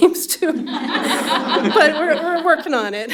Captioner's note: laughter